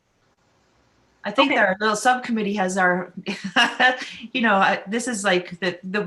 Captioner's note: laughs